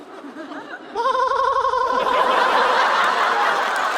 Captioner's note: laughing